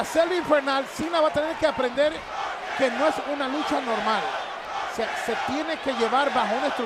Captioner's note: applause